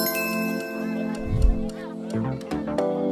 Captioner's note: chime; soft music